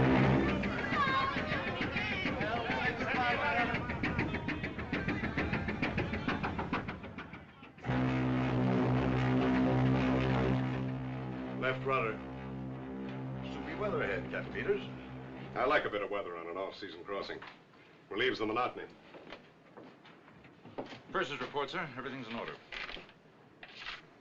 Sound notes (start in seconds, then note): 7.8 horn Blowing